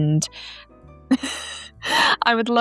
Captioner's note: laughs